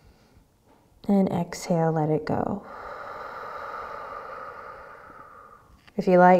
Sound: deep breath

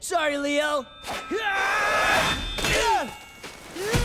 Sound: grunting

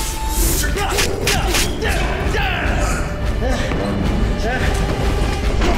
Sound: grunting

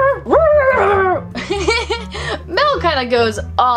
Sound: barking; laughing

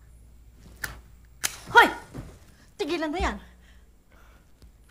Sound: match flickers

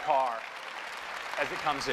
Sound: applause

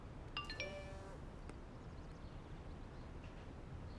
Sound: phone pinging

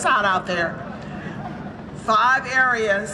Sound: audience laughs

